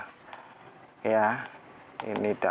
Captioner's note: clap